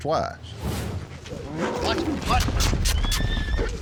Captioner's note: horse neighing